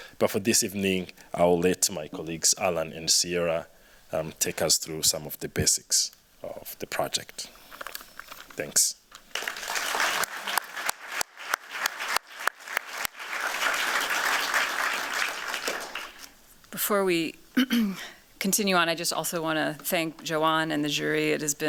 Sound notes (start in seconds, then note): 9.2 applause